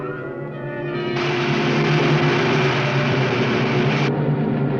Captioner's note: lizard hissing